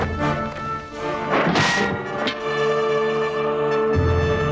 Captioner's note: sword smacks